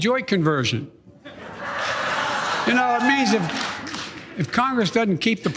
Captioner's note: laugh